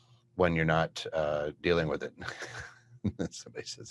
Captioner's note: laughs